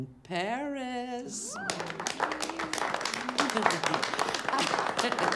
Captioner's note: faculty applauds